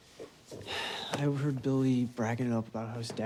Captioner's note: sighs